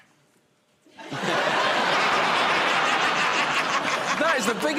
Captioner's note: laughter